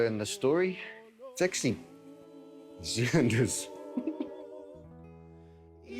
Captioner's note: laughs